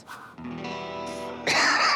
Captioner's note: laughs